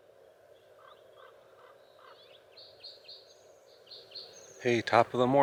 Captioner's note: birds chirping and other nature sounds